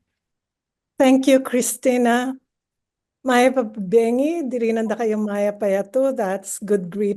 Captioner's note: speaks in foreign language